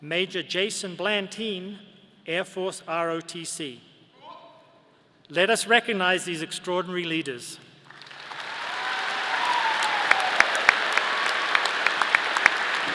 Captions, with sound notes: Major Jason Blantin, Air Force ROTC. Let us recognize these extraordinary leaders. (audience applauding)